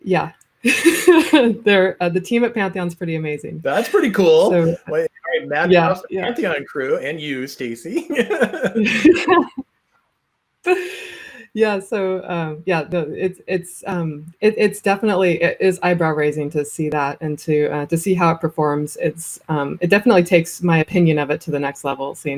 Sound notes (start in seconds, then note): 0.7 chuckles; 8.4 laughs